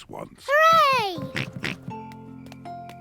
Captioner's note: oinks